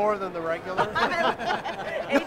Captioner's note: laughs